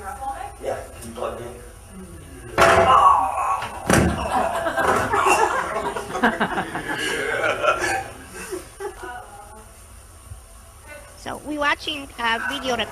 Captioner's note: audience laughter